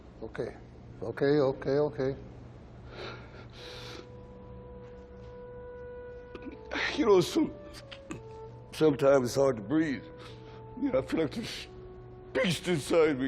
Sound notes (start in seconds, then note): 2.8 Rocky sniffling; 3.6 solemn music